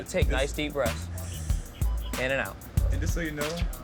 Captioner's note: inhales